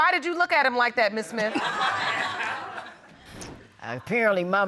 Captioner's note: audience laughs